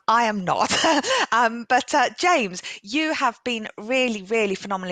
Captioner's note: laughs